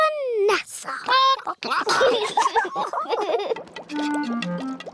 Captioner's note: chickens chatter; children giggle